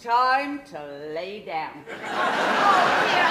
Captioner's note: audience laughter